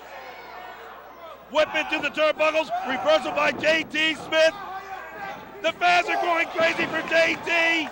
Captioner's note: crowd chatter